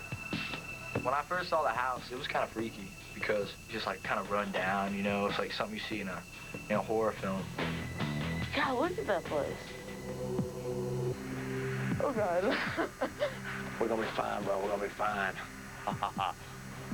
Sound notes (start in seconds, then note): 12.4 laughs nervously; 15.8 laughs evilly